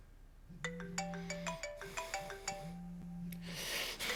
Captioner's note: phone ringing